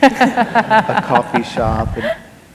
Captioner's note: laughter